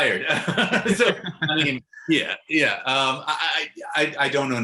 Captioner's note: laughs